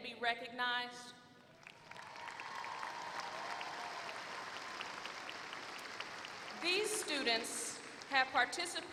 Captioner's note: applause